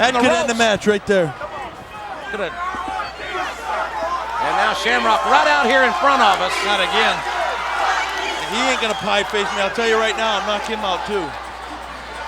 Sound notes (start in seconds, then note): 2.7 crowd chanting "Rocky sucks!"